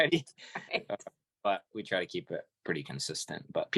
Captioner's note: laughing